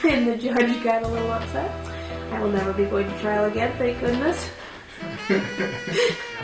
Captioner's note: laughing